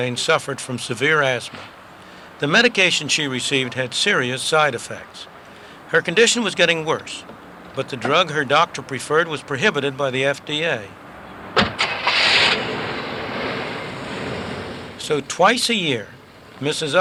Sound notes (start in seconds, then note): 11.5 car engine starting